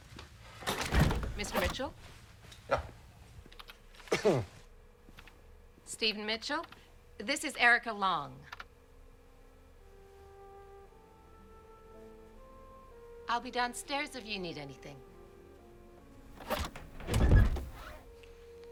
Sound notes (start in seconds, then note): 4.1 coughs; 16.3 door closes